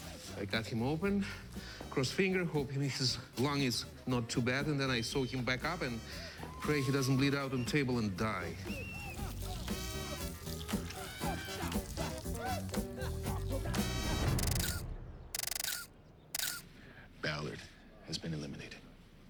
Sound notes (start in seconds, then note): 14.3 <i> camera shutter clicking</i>